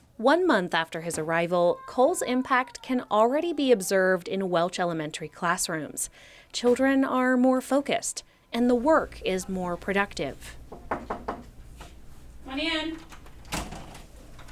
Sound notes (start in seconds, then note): 10.7 knocking on door